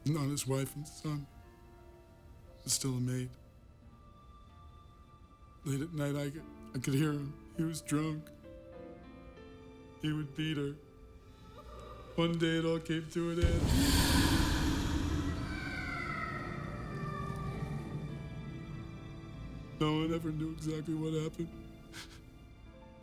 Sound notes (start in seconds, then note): 13.4 fire rages; 15.4 distant yelling